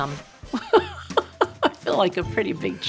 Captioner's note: laughing